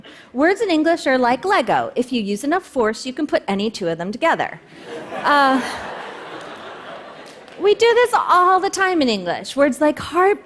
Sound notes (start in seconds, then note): 4.8 laughter